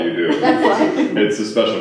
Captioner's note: laughter